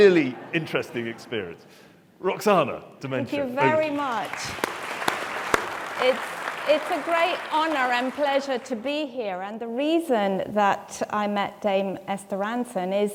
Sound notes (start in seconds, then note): 3.6 audience clapping